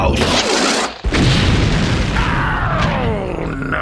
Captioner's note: perfectly harmless explosion